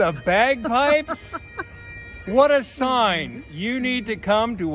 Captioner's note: laughing